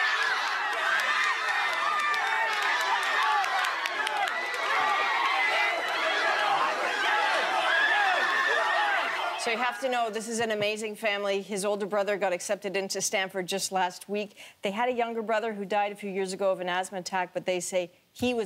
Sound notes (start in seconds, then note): 5.2 screaming